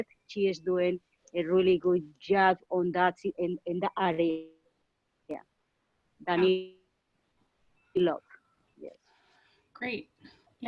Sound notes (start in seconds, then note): 6.9 internet blip